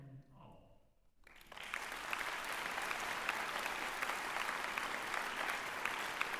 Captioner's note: applause